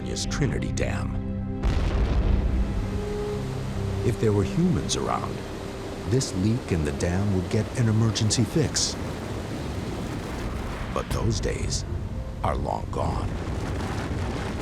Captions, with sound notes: like Northern California's Trinity Dam. [booms] [water rushing] If there were humans around, this leak in the dam would get an emergency fix. But those days are long gone.